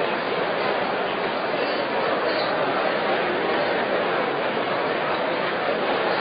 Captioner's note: crowd noise